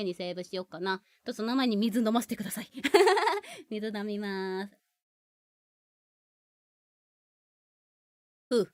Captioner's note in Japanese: 笑い